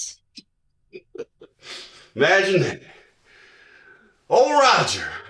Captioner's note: laughs